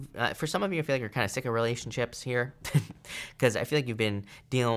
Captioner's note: chuckles